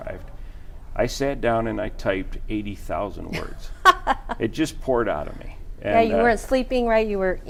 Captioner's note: laughing